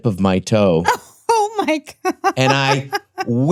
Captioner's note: laughs hilariously